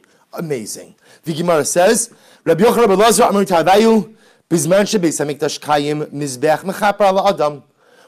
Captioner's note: Hebrew